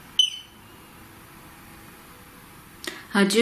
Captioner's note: beep